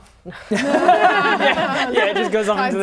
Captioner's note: laughing